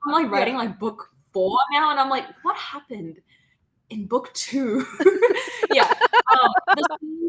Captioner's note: laughing